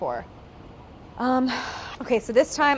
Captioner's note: sighing